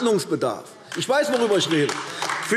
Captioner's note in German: Beifall AfD